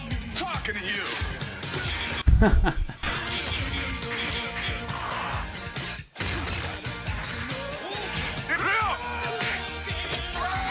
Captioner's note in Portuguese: grito